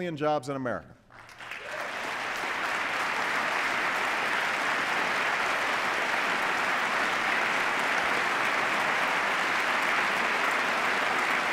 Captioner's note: applause